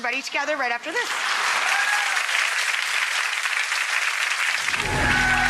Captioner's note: audience applauds